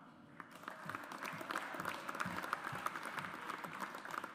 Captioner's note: audience applauds